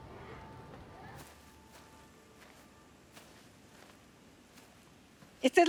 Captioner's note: footsteps crunching; bugs chirping